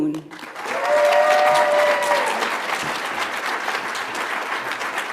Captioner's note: audience applauds